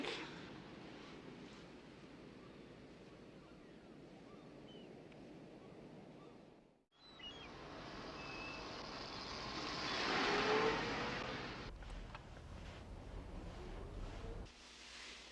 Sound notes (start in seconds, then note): 7.3 engine rumbles